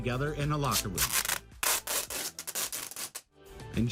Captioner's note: sound of duck tape tearing